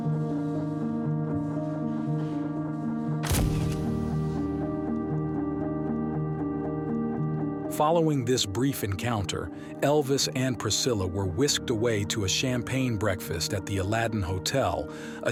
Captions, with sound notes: (camera flash snapping) Following this brief encounter, Elvis and Priscilla were whisked away to a champagne breakfast at the Aladdin Hotel,